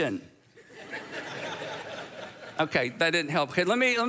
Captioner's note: audience laughs